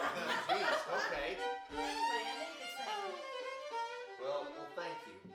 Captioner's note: family chatters and laughs